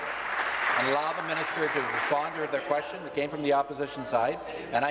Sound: applause

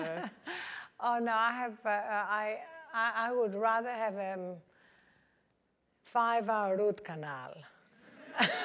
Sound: laugh

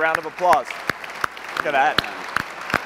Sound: applause

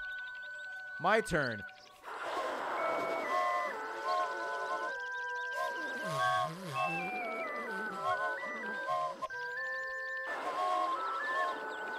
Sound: whistles

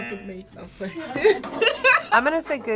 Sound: both laugh

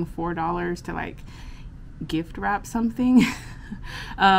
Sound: chuckles

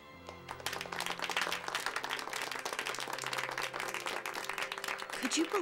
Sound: applause

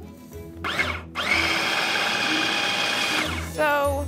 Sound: machine whirring

